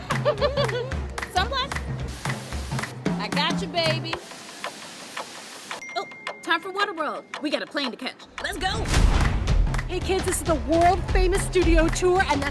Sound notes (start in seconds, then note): 0.0 laughs; 2.0 can spraying; 5.8 notification bell dings